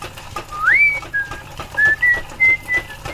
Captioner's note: whistling